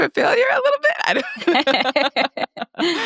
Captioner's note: laughing